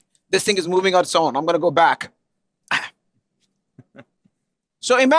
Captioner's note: laughter